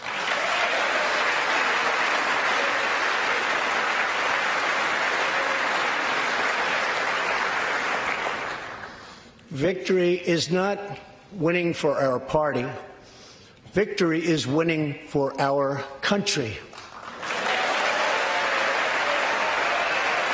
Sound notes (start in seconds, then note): 3.0 applause